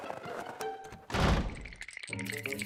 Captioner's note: doors slam; teeth chattering